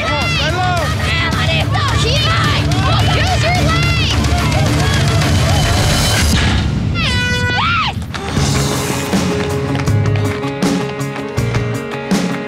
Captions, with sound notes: - Larissa (yells excitedly)! - Use your legs! (door slams) (air gun blows) (soft rock music)